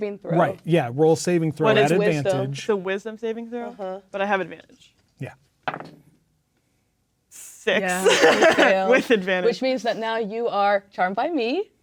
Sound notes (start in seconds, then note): 5.8 dice rolling; 7.8 laughing